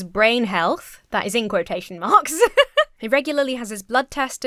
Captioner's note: laughs